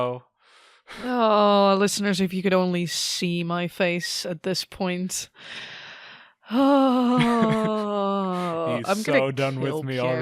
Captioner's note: big sigh. Big big sigh